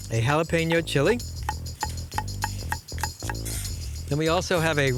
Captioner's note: chopping